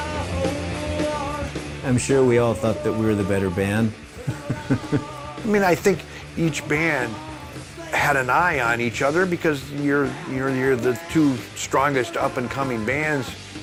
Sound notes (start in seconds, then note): 0.1 upbeat rock music; 4.1 laughing